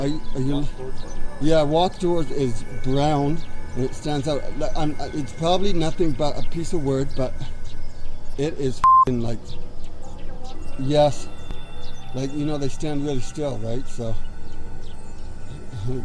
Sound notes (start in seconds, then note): 8.8 beep